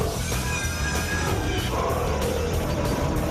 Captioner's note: roaring